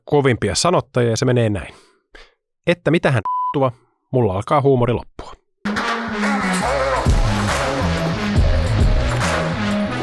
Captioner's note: beep